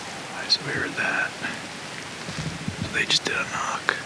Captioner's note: whispers